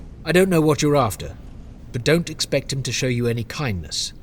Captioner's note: none